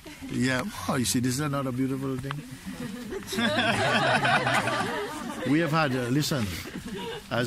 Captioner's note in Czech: smích